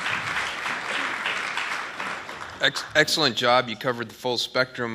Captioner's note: applause